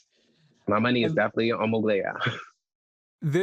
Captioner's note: chuckles